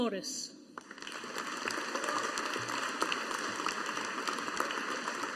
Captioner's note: audience applauding